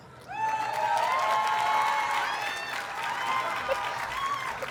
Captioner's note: audience cheers and applauds